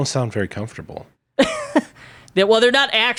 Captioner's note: laughs